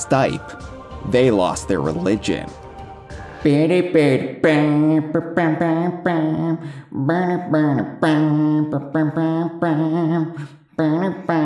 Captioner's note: badly hums the opening